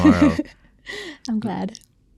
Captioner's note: laughing